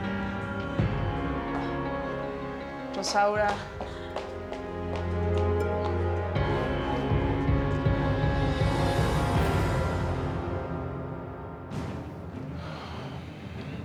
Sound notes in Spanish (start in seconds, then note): 4.4 Pasos rapidos